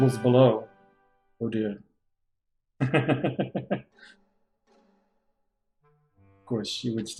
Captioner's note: chuckles